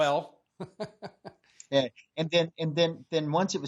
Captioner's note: laughs